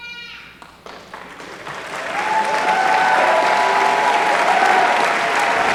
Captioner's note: applause